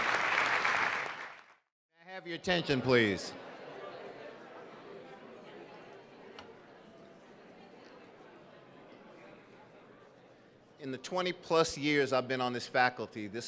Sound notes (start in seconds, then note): 2.7 audience murmuring